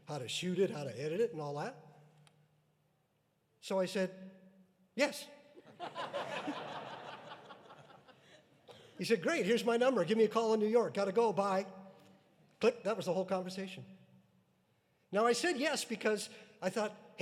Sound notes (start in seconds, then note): 5.7 audience laughing